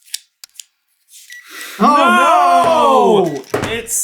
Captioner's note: gentle beeping